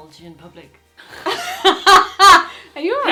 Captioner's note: they laugh